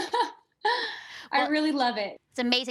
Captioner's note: laughs